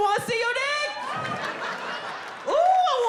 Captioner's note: audience laughing